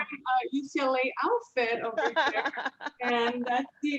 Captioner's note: laughs